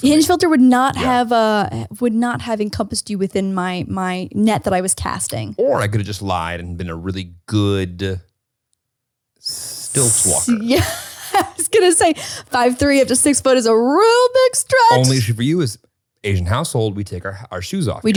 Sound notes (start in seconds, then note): 10.2 laughs